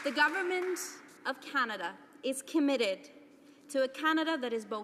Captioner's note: applause